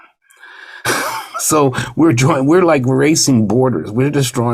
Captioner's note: laughs